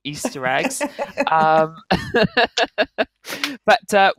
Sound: laughs

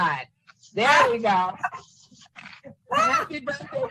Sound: laughs

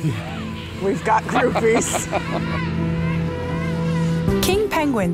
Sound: chuckles

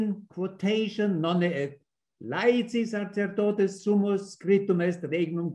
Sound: speaks in foreign language

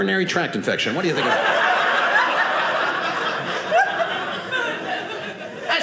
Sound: audience laughing

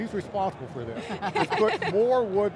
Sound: laugh

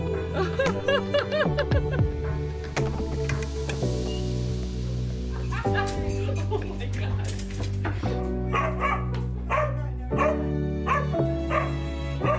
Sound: dog barking

